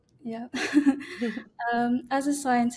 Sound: laughing

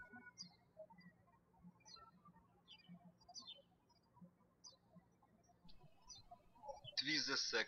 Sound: birds chirping

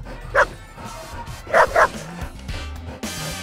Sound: panting; barking

